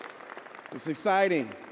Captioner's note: audience applauding